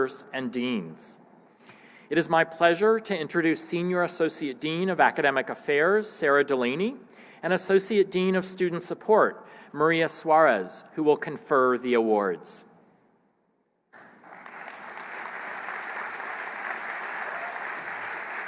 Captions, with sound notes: IT IS MY PLEASURE TO INTRODUCE SENIOR ASSOCIATE DEAN OF ACADEMIC AFFAIRS, SARAH DELANEY AND ASSOCIATE DEAN OF STUDENT SUPPORT, MARIA SUAREZ, WHO WILL CONFER THE AWARDS. >> [APPLAUSE]